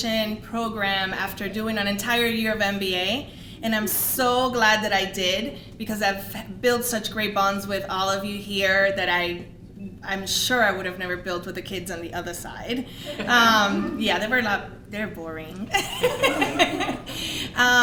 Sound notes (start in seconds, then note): 15.7 laughing